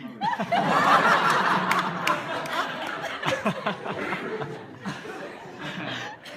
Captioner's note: laughter